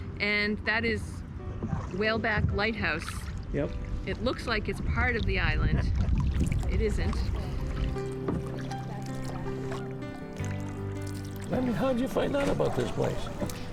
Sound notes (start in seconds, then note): 5.7 chuckles; 6.2 water splashing